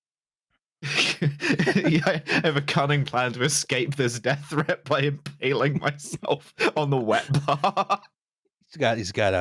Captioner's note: laughing